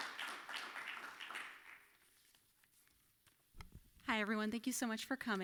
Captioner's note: applause